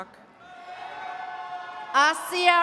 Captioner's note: attendees cheering